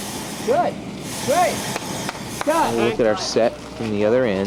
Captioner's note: claps